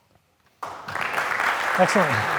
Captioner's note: audience applauds